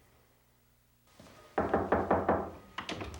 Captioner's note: knocking